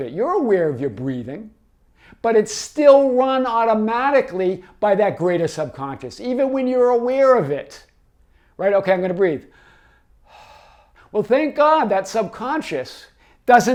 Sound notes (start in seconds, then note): 9.4 exhales